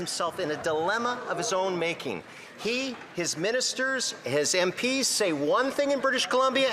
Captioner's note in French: voix de l'interprète